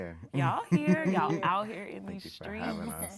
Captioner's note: laughing